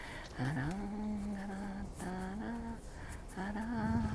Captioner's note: woman humming